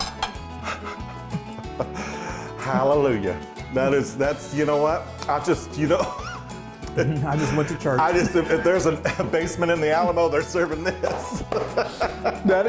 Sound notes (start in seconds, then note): 0.6 quiet laughing; 6.2 wheeze; 10.8 laughter